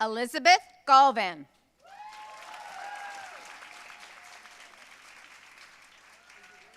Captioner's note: audience cheering and applauding